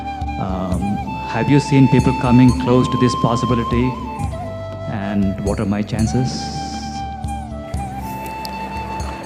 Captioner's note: applause